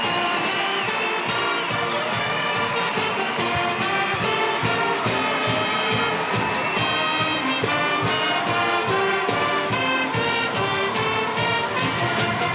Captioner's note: cheering andapplause